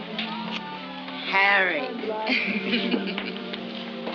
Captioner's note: laughs